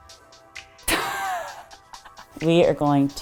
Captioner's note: laughs